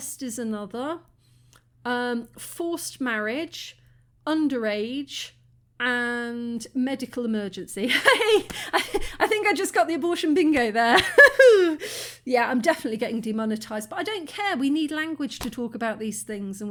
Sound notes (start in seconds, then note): 8.0 laughing